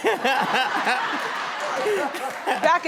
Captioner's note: audience laughing